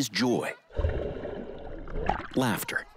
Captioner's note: water splashing